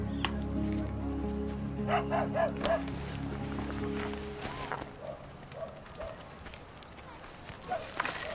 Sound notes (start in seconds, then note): 1.8 dog barking